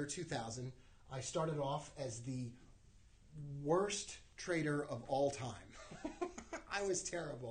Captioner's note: laughs